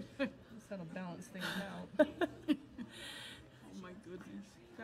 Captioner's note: overlapping chattering